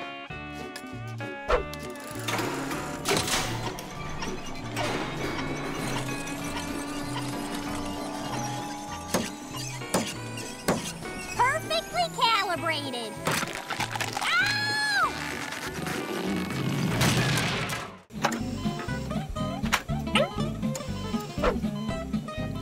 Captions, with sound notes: [pounding] Perfectly calibrated. Ow! [thudding] [beeping]